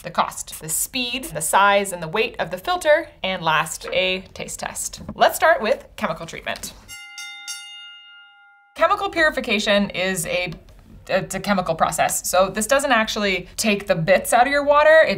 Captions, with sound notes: the cost, the speed, the size and the weight of the filter, and last, a taste test. Let's start with chemical treatment. (bell dings) Chemical purification is a, it's a chemical process. So this doesn't actually take the bits out of your water.